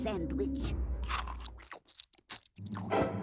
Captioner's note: chomping